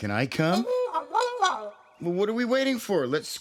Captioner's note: hooting